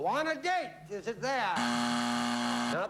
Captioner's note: buzzer